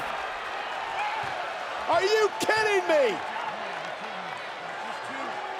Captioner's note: applause